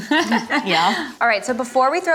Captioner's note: laughs